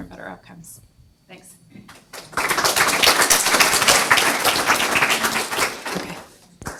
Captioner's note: audience applauds